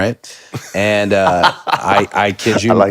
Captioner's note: Finn laughs